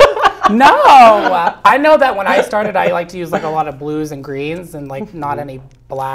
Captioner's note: laugh